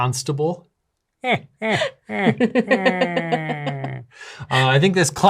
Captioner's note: laughter